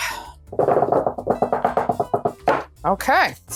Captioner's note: gentle tapping